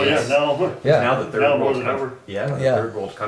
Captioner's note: men mumble in agreement